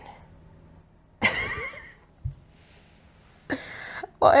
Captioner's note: laughs